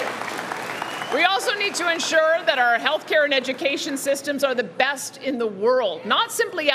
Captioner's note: cheering